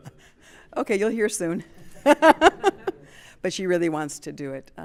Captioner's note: laughing